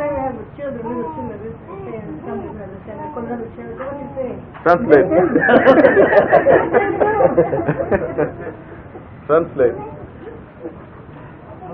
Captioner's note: Gülüşmeler